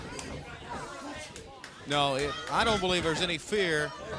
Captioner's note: crowd chatter